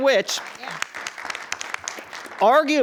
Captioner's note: attendees applauding